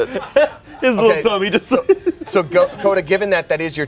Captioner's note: laughs